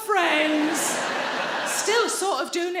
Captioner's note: audience laughing